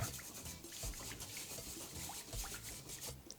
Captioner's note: water splashing